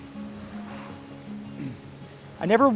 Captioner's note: groom exhales